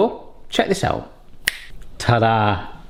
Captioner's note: clicks